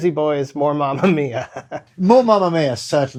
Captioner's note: laughter